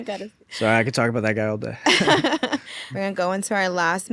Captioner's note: host laughs